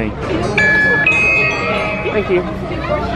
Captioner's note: machine chimes